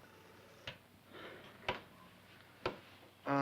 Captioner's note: sighs